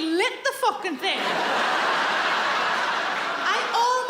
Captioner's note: audience laughs